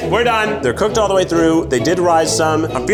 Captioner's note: gasps